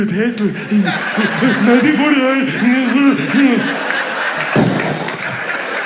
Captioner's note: mocks; slurs mockingly; audience laughing